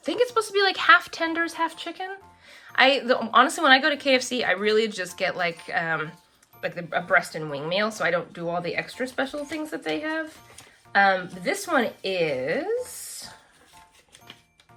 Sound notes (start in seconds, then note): none